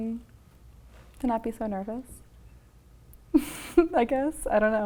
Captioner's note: laughs